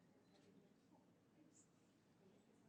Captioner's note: none